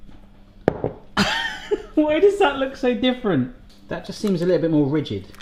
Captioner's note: laughs